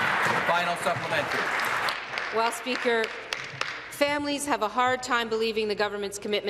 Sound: applause

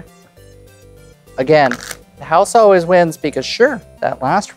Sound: cards riffling

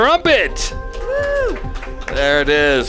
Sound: cheering

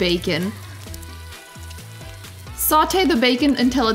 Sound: bacon sizzles

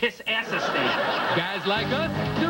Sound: almost entirely unjustifiable laugh track

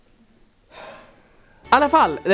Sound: sigh

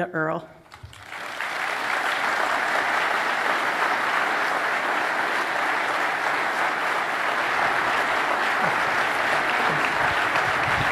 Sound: applause

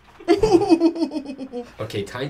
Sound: fake sobs

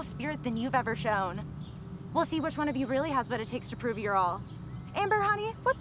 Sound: none

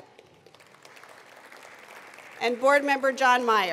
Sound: attendees applauding

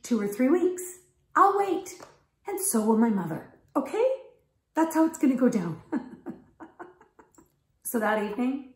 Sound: ha,ha

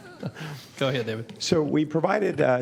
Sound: laughter

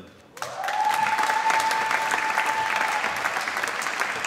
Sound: applause

